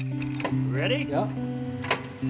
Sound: voiceover

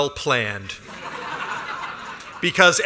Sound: laughter

